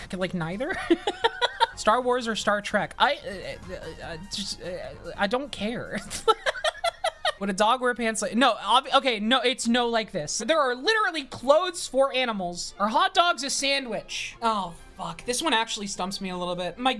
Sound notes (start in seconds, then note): 0.8 laughs; 3.5 stammering; 6.0 laughs